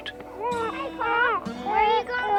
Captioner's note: baby crying